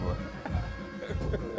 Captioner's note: all laugh